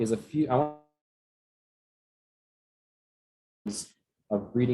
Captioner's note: audio Cuts Out